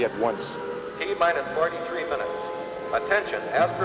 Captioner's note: man on PA